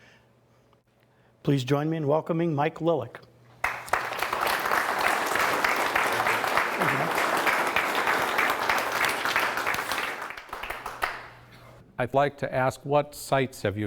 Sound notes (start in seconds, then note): 3.6 audience applauds